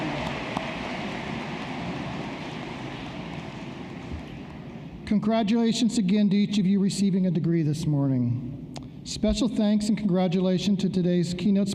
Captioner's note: cheering; applause